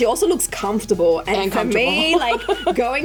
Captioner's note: laughs